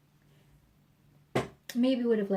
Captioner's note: thump